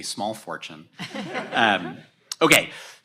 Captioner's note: audience laughs